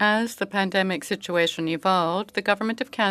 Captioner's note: speaking French